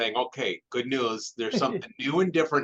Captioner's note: chuckles